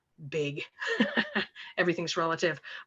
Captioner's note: laughs